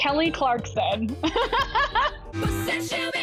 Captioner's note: laughs